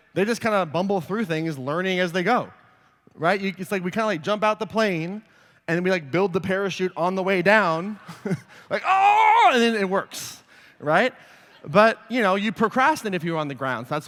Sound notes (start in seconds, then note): 8.0 laughter; 9.1 groans